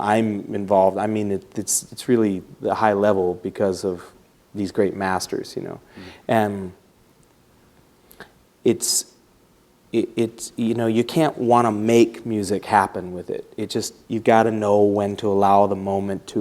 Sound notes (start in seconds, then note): none